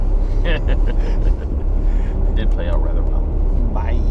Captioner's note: laughing